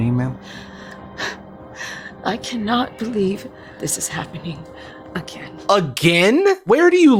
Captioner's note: sighs